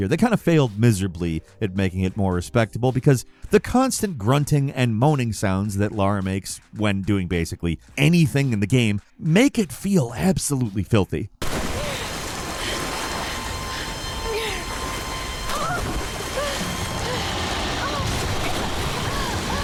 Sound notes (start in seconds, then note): 11.4 water rushing; 12.0 Lara grunting